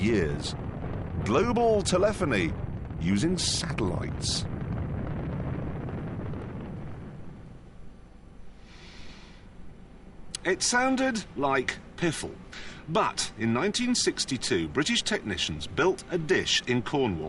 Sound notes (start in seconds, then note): 4.2 thunder